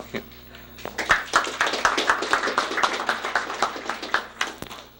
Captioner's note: applause